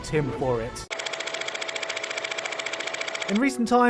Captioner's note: old film projector noise